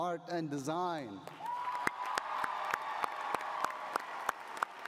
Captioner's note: cheering